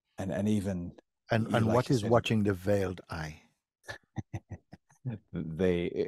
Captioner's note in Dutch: Jonny lacht